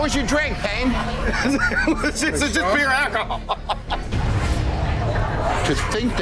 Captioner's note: laughs